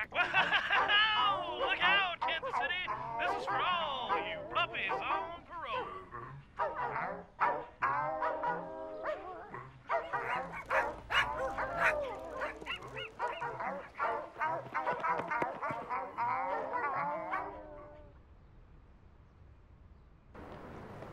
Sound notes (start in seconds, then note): 3.0 dogs barking melody